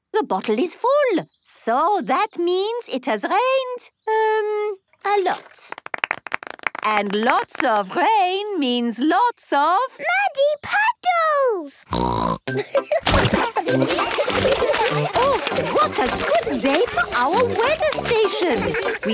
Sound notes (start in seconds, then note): 11.9 snorting; 12.5 laughter